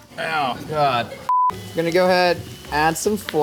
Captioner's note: tone beeps